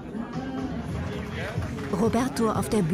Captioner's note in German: Entfernter Applaus